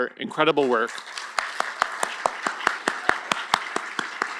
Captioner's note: applause